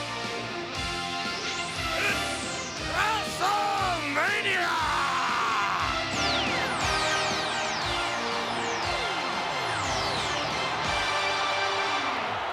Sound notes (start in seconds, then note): 6.9 upbeat music; 7.7 audience cheering and clapping